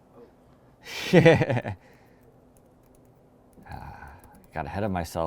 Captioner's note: laughter